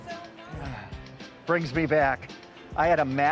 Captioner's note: sigh